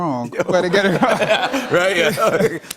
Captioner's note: laughter